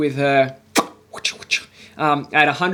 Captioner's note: lips smacking